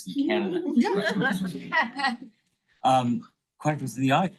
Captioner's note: attendees laughing